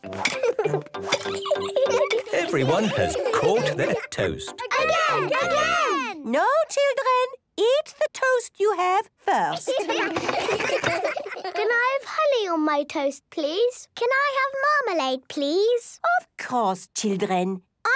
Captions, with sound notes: - Everyone has caught their toast. - (children calling out) Again! Again! - No, children! Eat the toast you have, first. - Can I have honey on my toast, please? - Can I have marmalade? - Of course, children!